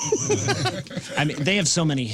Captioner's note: laughing